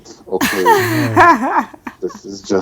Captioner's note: laughing